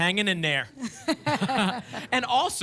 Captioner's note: laughter